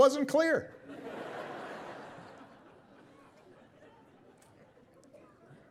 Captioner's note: audience laughing